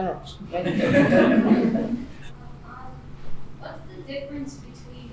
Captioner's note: laughing